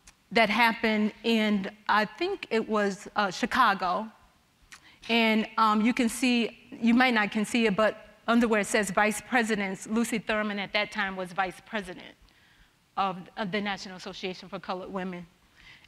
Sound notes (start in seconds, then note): none